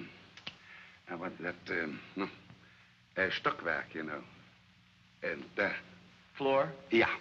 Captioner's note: fumbling for words